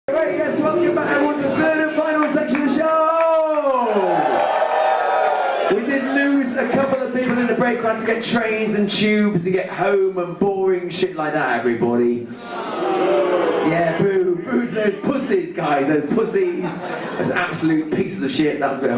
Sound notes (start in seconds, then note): 4.0 audience cheer; 12.5 audience boo